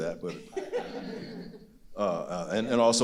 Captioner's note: audience laughing